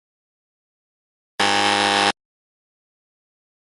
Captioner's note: warning buzzer